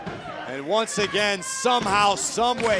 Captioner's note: crowd chatter